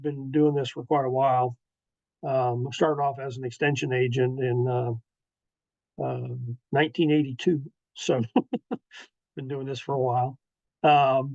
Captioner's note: laughs